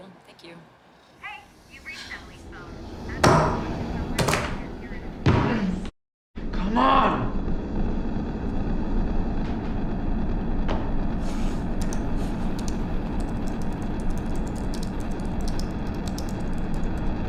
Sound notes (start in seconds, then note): 1.4 tense music playing; 13.0 computer keys clicking